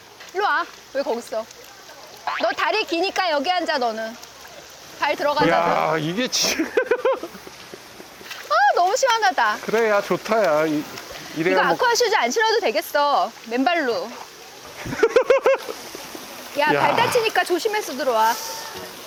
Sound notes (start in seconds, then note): 9.8 splashing around